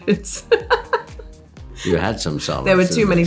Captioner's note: laughs